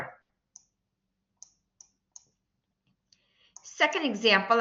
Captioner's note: silence